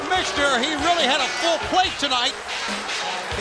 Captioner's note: crowd cheering